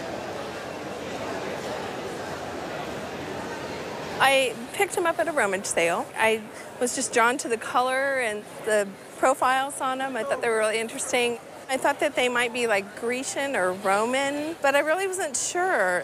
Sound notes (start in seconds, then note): none